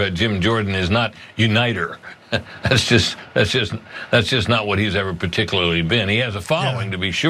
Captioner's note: laugh